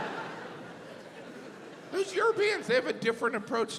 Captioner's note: audience laughs